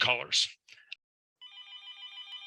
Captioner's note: telephone ring